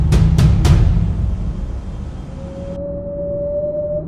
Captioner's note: ghost moans